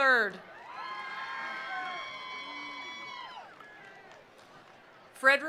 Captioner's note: attendees cheering; attendees applauding